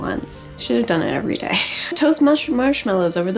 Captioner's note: laughing